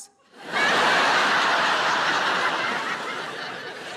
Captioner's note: crowd laughing